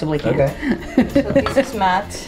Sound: laughing

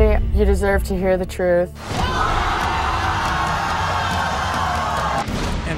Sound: audience gasping

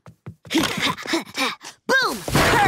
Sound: panting

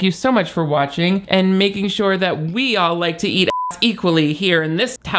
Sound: beep

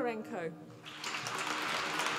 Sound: applause

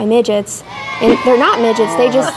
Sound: sounds of children mocking

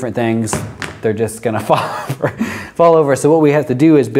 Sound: laughs

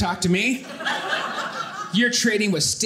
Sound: audience laughing

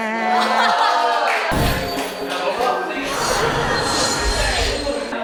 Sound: applause

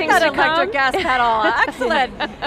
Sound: laughing

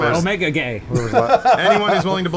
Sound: laughter

